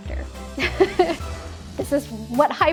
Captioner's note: she laughs